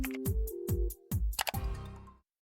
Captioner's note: cursor clicks